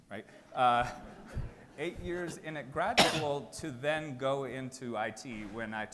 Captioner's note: chuckles